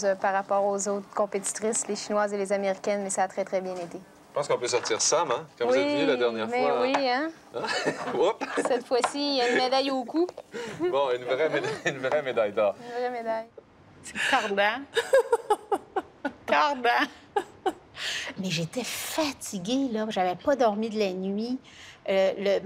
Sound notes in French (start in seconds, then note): 15.0 rire